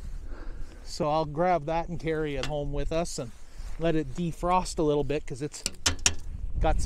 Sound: tap tap

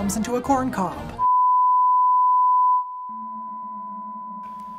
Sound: long beeping

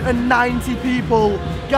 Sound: none

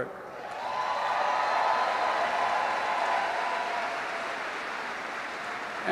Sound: applause

